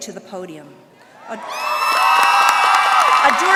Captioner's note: applause